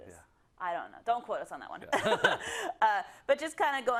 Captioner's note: laugh